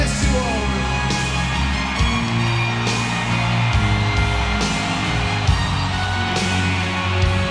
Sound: audience cheering; slow rock music

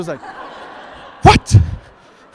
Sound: audience laughs

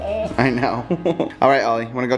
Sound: laughs

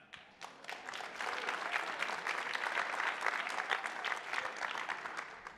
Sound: attendees applauding

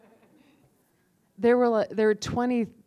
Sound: laughter

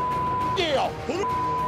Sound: beep

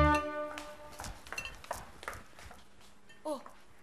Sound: footsteps rushing

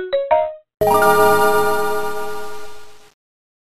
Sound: Game Boy colour start up noise

